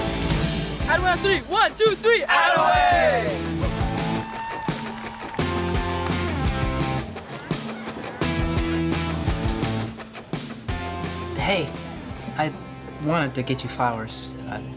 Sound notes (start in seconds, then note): 4.3 crowd cheers; 6.6 upbeat music